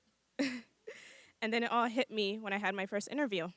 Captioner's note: chuckles